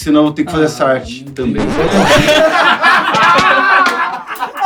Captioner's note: risos